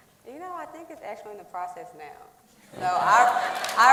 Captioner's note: applause